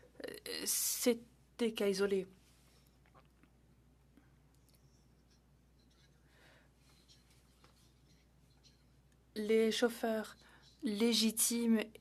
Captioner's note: speaking French